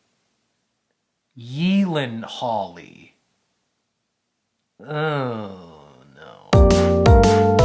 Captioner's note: groans; upbeat music